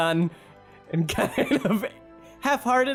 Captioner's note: laughing